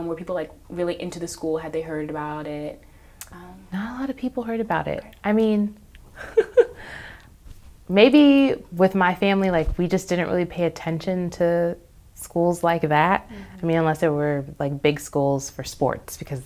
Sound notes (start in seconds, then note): 6.1 laughs